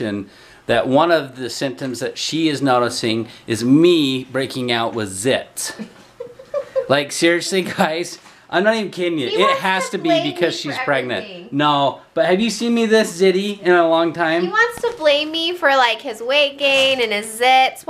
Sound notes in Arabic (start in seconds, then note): 5.7 يضحك